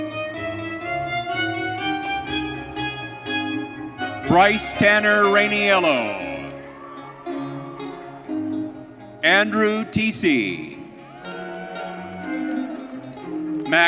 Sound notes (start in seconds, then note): 6.8 audience cheering; 10.9 audience cheering